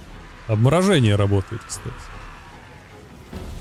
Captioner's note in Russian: крик